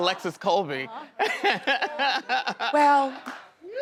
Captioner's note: male chuckles